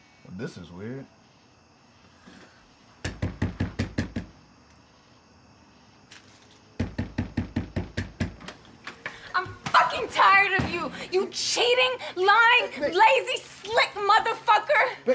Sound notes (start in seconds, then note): 3.5 Bryan knocking